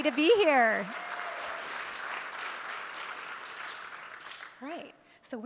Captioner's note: audience clapping